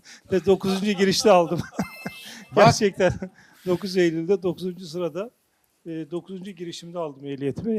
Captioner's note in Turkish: kahkaha